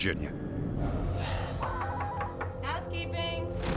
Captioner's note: knocking